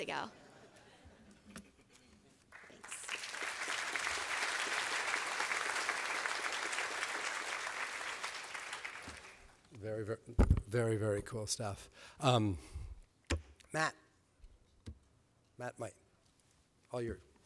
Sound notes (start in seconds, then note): 0.4 laughter; 2.5 applause